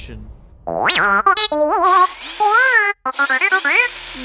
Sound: droid beeps, whirs

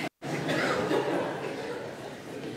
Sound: laughter

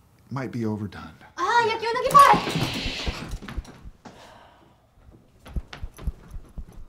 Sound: Chun Ji shouting in a foreign language

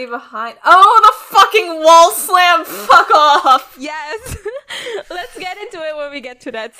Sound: laughs

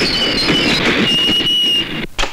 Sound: brakes squeal

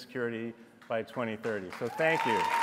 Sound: applause

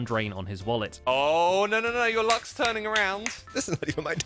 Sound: claps

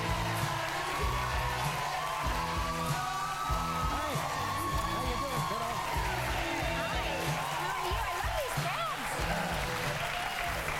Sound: applause

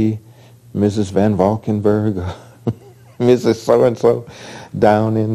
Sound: laughs

